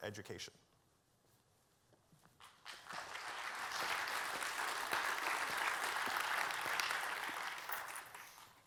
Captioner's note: applause